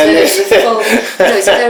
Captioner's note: laughter